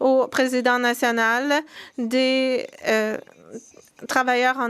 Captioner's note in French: voix de l'interprète